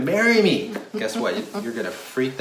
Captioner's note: laughs